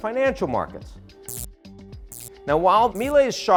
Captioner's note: electricity buzzing